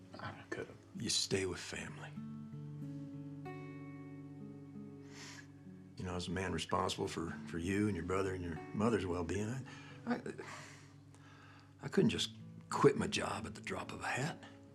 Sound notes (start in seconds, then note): 2.9 soft somber music; 9.7 sighs